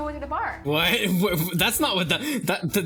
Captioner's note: chuckling